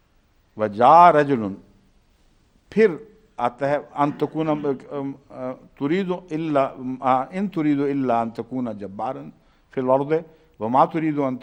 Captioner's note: Arabic